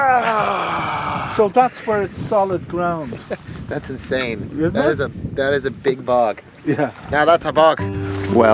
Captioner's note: yells triumphantly; attempts an Irish accent again